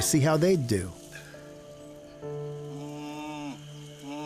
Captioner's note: low calling